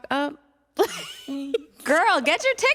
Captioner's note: laughs